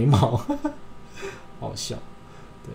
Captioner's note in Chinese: 笑聲